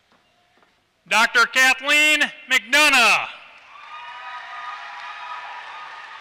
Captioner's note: applause